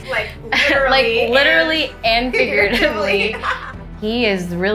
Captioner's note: chuckles